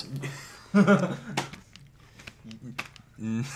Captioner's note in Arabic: ماكس يضحك